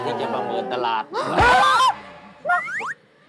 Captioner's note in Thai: เสียงตกใจ